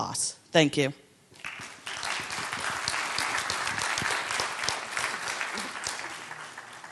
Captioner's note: applause